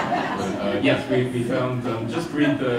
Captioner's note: audience laughter